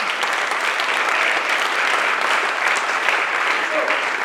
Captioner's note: applause